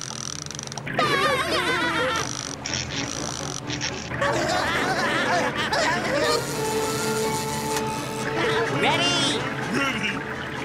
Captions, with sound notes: [giggling] [laughing] - Ready? - Ready.